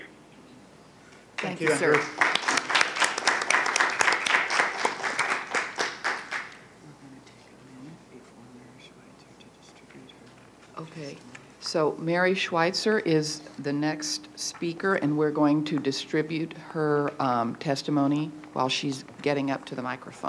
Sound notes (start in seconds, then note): 1.4 applause